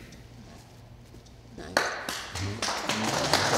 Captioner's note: applause